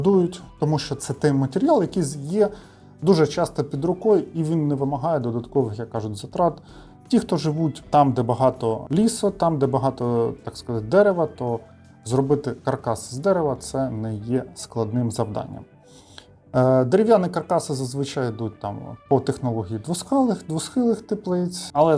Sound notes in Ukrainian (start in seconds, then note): 15.9 сопіння